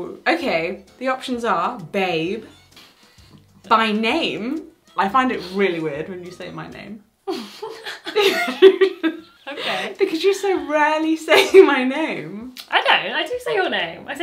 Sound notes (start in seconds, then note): 7.2 both laugh